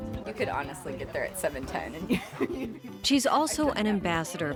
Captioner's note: laughs